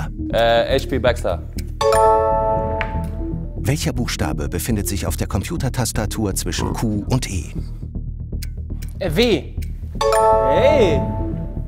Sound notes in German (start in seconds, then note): 6.4 Rülpser